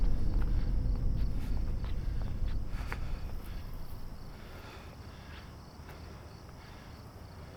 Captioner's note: feet walking; insects chirping